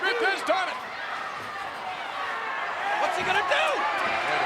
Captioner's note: crowd yelling